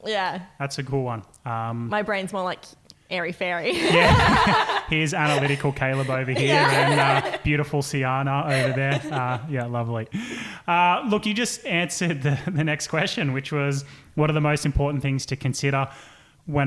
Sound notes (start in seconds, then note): 3.7 laughing